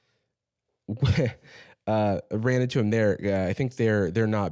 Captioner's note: laughs